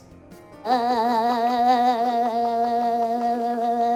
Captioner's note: babbling